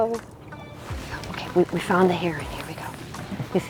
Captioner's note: whispers